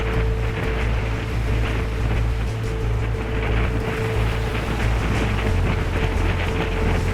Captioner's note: dramatic music; wind whipping